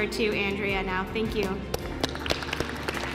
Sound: applause

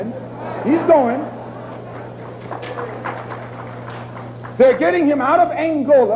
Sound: applause

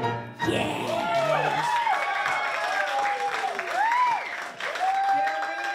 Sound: applause

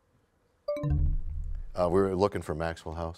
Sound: bell chimes, time expires

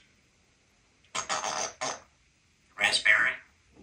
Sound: raspberry sound

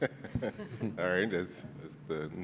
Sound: laughing

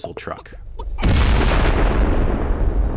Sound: boom

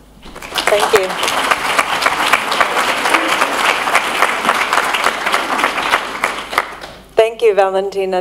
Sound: applause

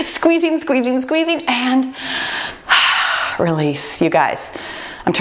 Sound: timer beeping; sigh

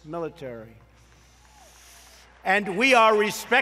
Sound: applause

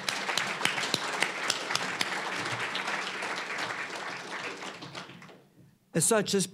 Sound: applause

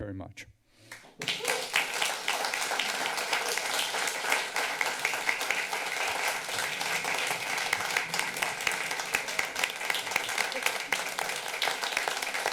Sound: applause

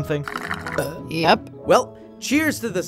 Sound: burps

